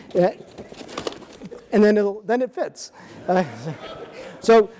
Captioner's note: audience laughing